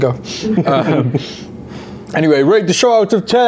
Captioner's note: chuckle